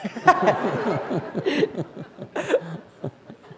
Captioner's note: laughter